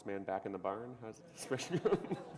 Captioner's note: laughter